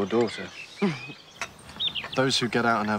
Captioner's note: laughs